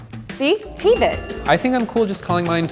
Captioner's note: chiming bells